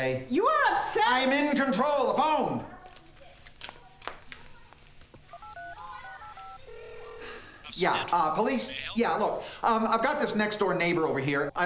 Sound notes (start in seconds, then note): 5.1 dialing; 6.6 ringing; 7.0 on phone